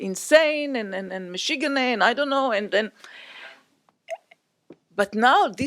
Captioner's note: non-english